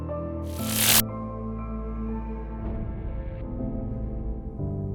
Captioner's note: electricity buzzing